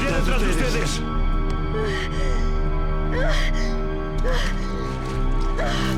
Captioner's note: gasping